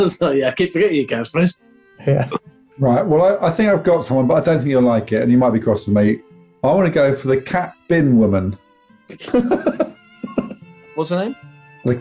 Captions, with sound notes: Oh, sorry – yeah, I keep forgetting your catchphrase! Yeah! Right, well, I think I've got someone, but I don't think you'll like it, and you might be cross with me. I want to go for the cat bin woman. [LAUGHING] What's her name?